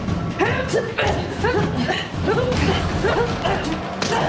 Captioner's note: both grunting